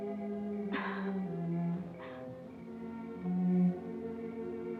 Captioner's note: Delia chuckles